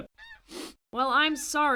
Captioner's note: sniffle